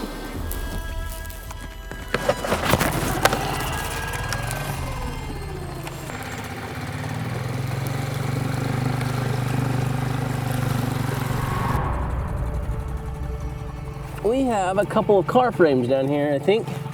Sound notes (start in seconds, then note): 0.0 somber orchestra music; 0.0 water sloshing; 2.0 engine chugging; 11.9 air whooshing